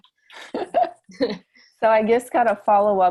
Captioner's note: chuckling